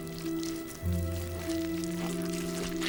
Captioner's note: none